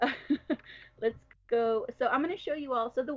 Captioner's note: laughs